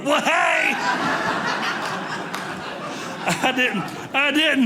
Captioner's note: audience laughing